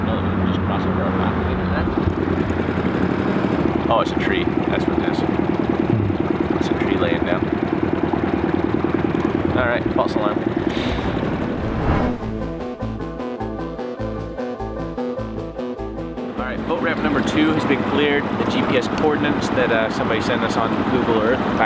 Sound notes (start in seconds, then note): 5.9 hums; 12.3 mysterious music